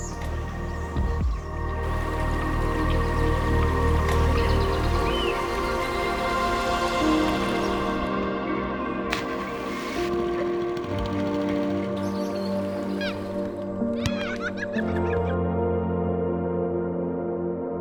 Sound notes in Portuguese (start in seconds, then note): 0.1 trilha sonora esperançosa; 2.9 água corrente; 8.9 trilha sonora esperançosa; 9.0 motor de barco; 9.1 splash na água; 9.6 trilha sonora esperançosa; 12.0 crianças gritando e rindo; 12.0 trilha sonora esperançosa